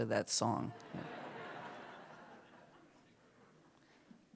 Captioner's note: laughter